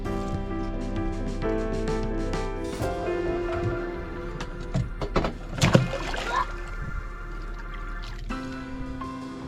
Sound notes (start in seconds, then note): 0.2 bright music; 5.4 water splashes